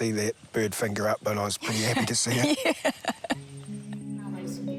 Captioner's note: laughs